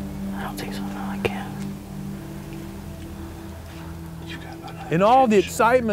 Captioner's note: whispering